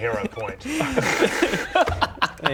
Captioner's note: proud laughter